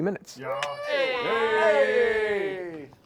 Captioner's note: cheering